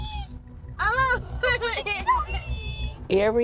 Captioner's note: children squealing